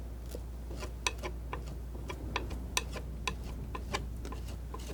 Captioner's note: scratching